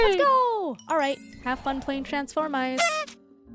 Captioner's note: party horns